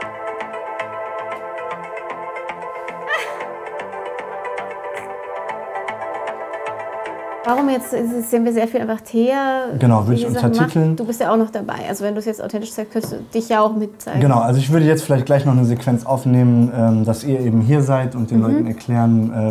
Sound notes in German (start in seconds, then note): 3.0 Lachen